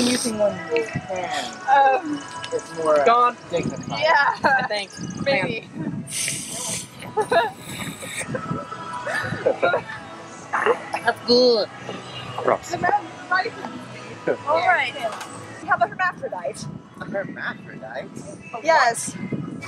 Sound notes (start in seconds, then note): 6.0 one last slurp